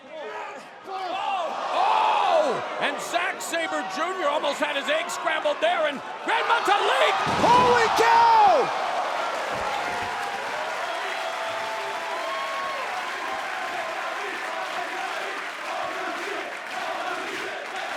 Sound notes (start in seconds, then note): 8.8 crowd cheering; 14.9 crowd chanting